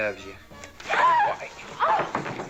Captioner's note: screaming